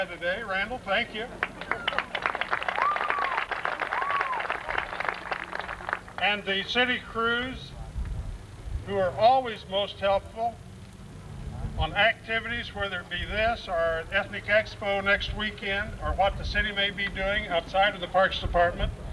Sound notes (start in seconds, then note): 1.4 laughter; 2.9 applause